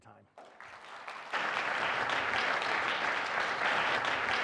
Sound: applause

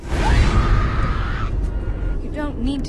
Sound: screaming

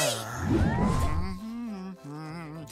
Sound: humming

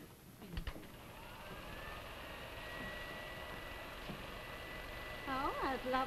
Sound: projector noise

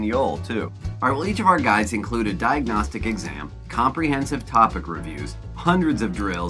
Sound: Mouse clicking shmoop test prep

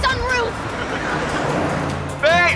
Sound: laughing

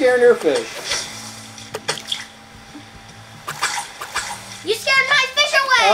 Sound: fishing lure splashing in water

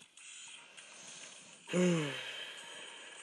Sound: huge sigh

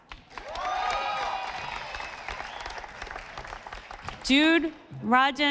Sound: audience applauding

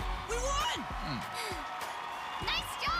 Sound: sighs

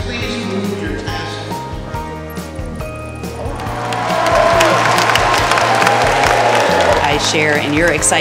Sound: applause

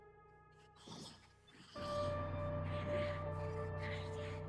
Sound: creepy whispering

